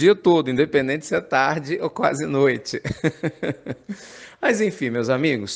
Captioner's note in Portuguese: Risos